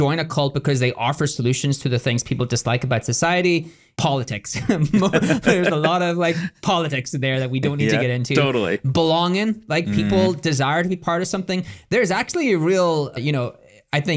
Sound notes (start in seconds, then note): 4.6 both laughing